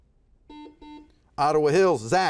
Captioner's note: buzzer buzzes